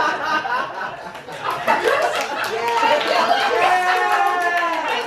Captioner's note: laughter and Applause